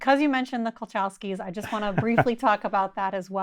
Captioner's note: chuckling